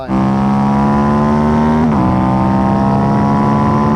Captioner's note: engine revving